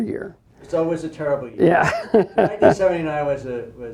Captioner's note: laughs